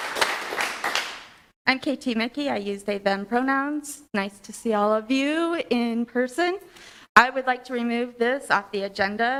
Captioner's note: applause